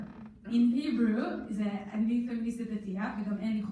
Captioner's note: in foreign language